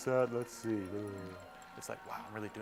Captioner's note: groaning